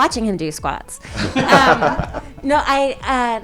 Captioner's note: cast laughing